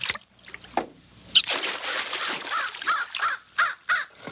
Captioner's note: barking